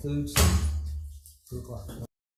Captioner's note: gavel bangs